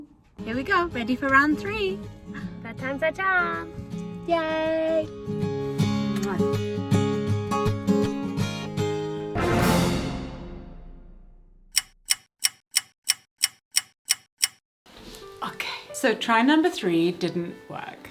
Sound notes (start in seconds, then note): 5.7 gentle music; 6.1 kisses; 11.7 clock ticking